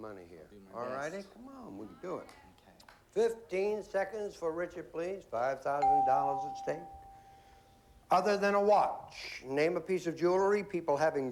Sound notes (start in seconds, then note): none